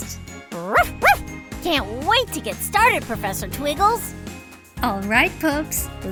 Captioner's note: barking